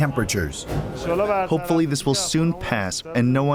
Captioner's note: through translator